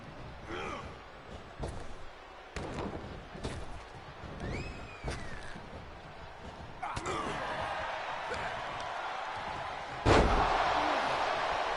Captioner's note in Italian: Applauso